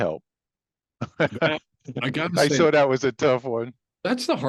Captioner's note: laughs